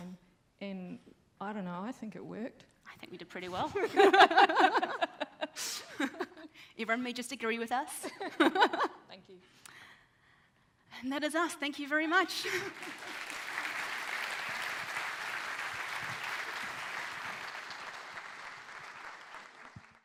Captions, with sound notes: And, I don't know, I think it worked. - I think we did pretty well. (both laughing) Everyone just agree with us. - Thank you. - And that is us, thank you very much. (audience applauds)